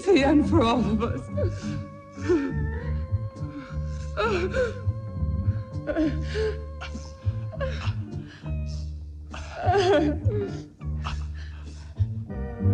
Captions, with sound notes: It's the end for all of us. (whimpering) (eerie music)